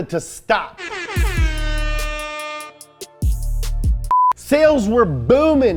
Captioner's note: horn sounding